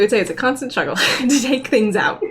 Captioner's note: laughs